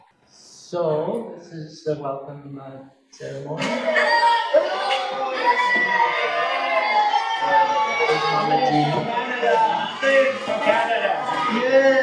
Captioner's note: children cheering, lots of voices